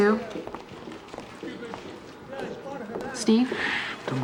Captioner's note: indistinct chatter